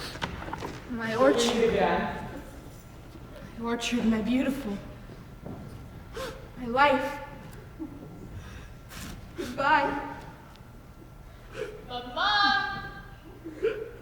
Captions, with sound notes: -My orchard. -Until we meet again. -My orchard, my beautiful- -[sobs] -My life, goodbye. [cries] -Mama!